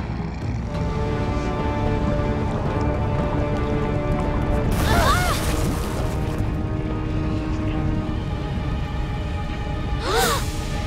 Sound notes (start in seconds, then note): 4.7 yelling; 9.8 gasping